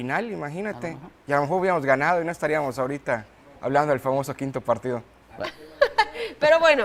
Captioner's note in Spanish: risas